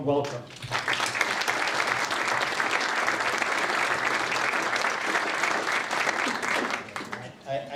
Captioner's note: applause